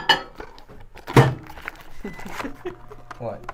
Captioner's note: oven door bangs; giggles